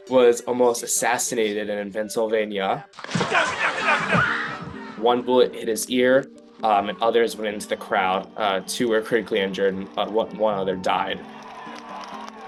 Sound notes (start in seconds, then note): 3.0 gunshots